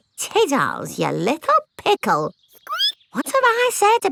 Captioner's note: squeaks